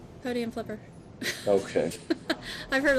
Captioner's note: laughing